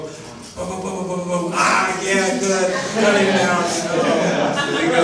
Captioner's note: audience laughing